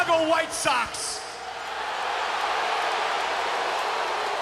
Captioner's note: crowd boos